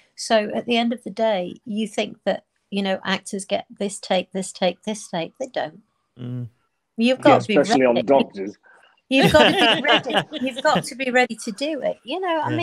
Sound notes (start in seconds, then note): 9.1 group laughing